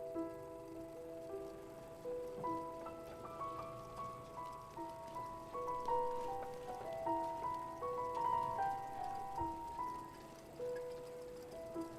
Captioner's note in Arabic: صوت جهاز عرض الفيلم